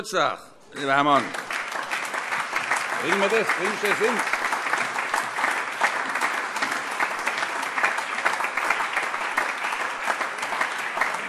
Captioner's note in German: Beifall - überreicht ein Weinpräsent